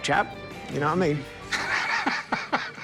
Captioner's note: laughter